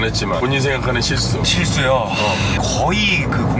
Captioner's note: sighs